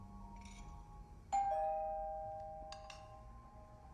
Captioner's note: doorbell ringing